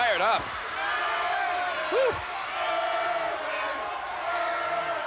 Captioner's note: crowd chants "Irwin"